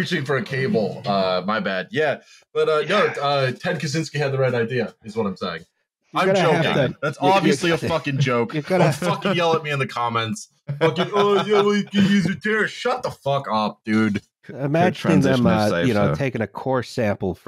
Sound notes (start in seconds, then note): 6.2 laughs